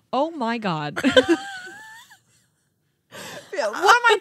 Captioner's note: laughing